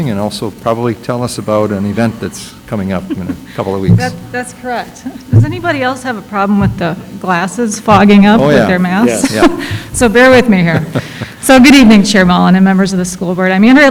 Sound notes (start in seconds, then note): 3.0 laughs; 10.3 laughs